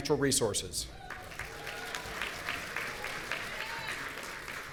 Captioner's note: audience applauding